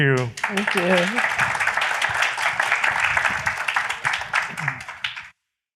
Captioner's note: applause